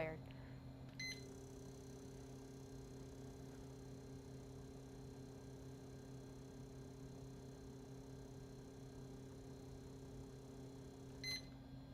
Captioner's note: sound of Meter Reading